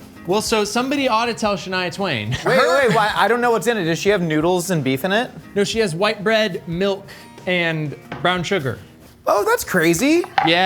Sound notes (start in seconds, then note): 2.3 laughing